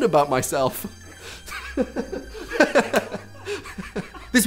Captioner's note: chuckling